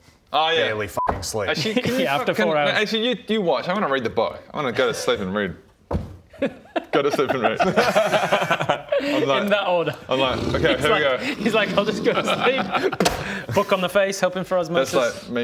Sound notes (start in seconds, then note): 13.0 boof